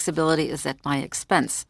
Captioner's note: speaking French